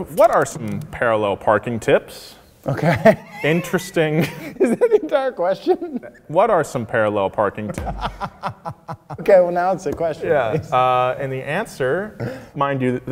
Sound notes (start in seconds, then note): 3.3 laughing; 7.7 laughing